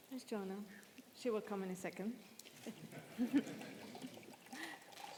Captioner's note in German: Gelächter